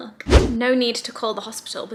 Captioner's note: whooshing sound